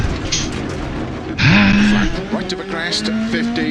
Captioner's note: moans